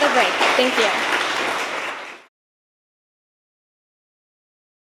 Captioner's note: audience applauding